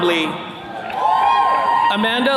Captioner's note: attendees cheering